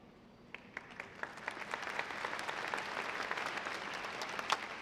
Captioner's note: audience clapping